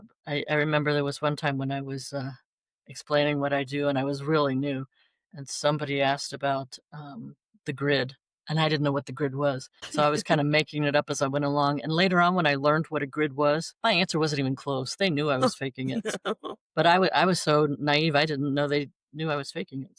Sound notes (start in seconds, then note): 16.8 laughter